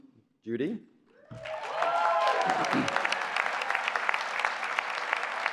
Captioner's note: applause